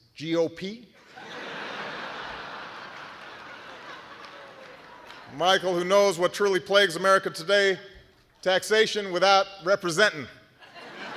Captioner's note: laughter